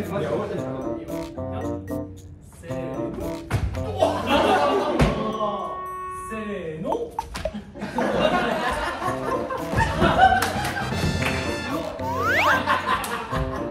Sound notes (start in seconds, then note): 11.6 sound effects:ta-da; 11.9 sound effect:hop